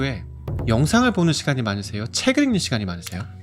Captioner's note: book sound effect